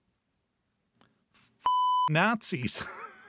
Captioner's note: beep